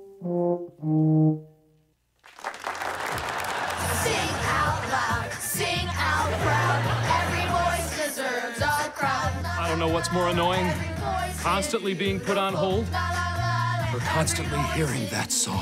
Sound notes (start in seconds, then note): 0.0 tuba playing; 2.5 cheering